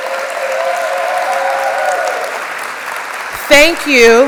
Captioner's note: applause